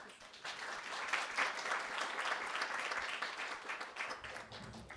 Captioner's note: applause